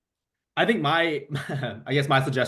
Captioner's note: chuckles